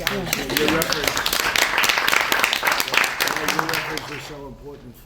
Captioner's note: applause